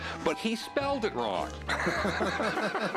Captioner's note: laughter